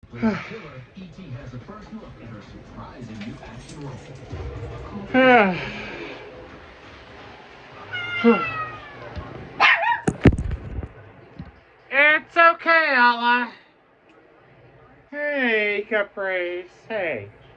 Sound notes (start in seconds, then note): 7.9 Ella barks; 7.9 meows in discomfort